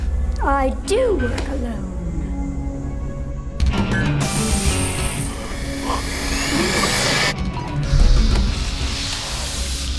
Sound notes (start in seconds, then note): 3.6 heavy rock music; 5.2 gasping